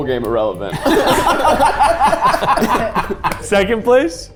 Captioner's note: group laughing